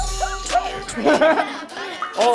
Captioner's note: laughing